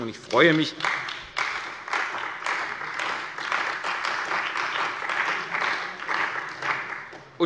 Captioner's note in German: Beifall bei dem BÜNDNIS 90/DIE GRÜNEN und der CDU